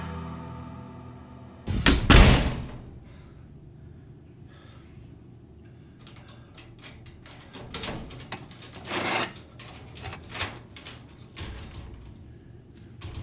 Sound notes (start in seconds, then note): 3.8 James panting; 6.0 lock clicks